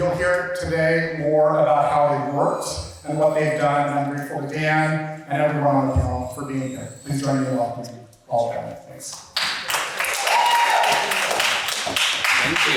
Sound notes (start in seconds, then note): 9.4 audience applauds